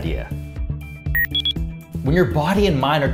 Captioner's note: electronic beeping